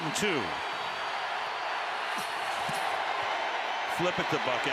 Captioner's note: crowd cheering